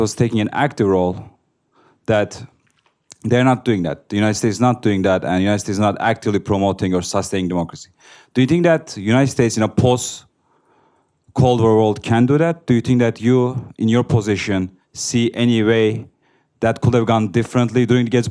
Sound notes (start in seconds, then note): none